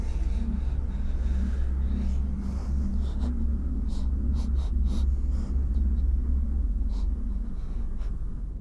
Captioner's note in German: Schluchzen